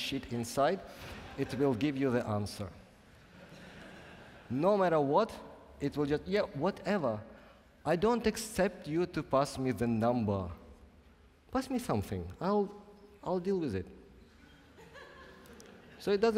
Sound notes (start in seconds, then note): 3.0 laughing; 14.4 laughing